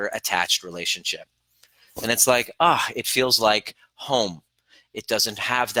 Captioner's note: exhales